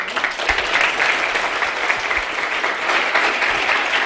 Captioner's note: audience applauding